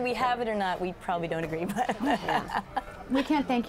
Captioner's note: laughter